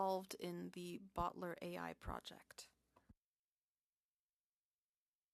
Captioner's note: speaking French